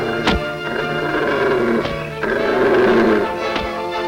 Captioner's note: blows cracking